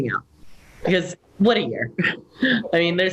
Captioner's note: chuckle